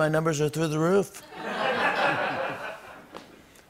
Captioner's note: laughter